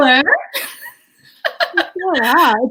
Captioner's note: laughs